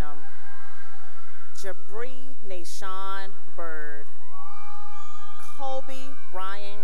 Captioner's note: cheering; cheering